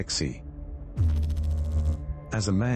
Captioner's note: electrical noise